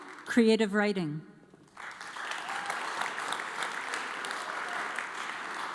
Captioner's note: audience applauds